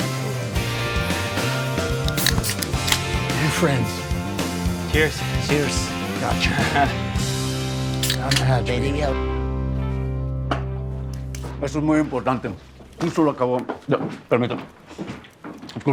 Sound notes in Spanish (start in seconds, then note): 2.0 Sonido al destapar las latas; 5.3 Exclamaciones